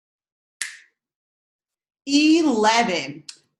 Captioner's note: snaps fingers